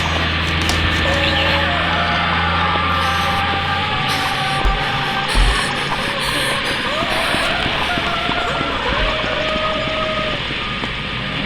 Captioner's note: continues incoherent wailing